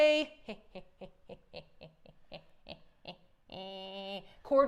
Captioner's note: laughs quietly